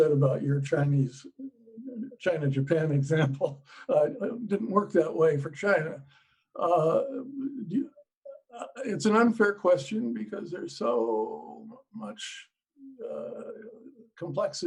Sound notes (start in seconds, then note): 2.7 laughing